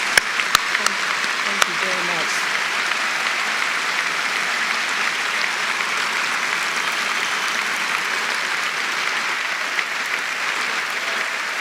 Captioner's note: applause